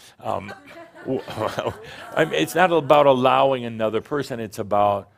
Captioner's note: some chuckles